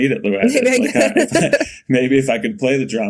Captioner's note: Bode and Mikaela laughing